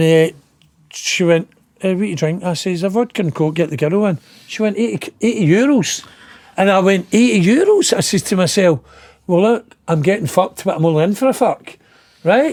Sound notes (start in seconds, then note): none